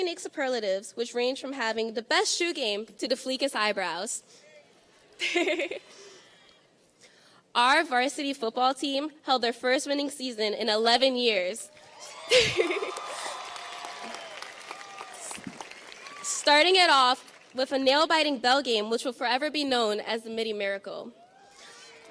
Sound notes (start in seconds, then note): 5.8 laughing; 12.3 laughing; 14.1 audience cheers and applauds